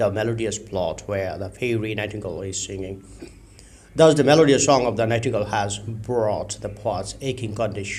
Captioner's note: nightingale